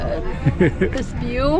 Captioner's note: laughs